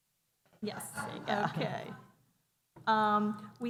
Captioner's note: laughter